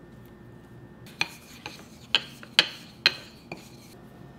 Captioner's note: loud tapping sound